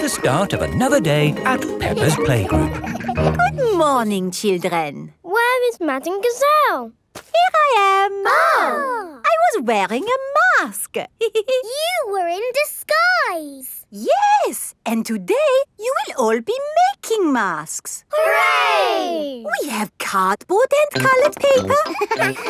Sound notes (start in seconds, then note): 8.2 exclaiming; 11.3 giggles